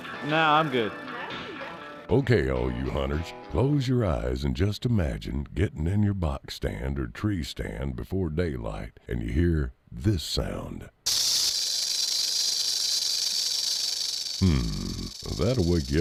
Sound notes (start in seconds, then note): 11.0 snake rattles